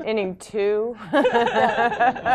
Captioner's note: laughter